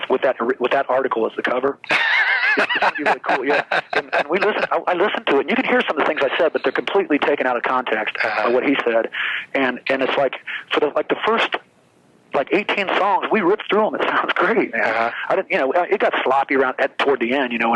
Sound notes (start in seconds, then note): 1.8 laughs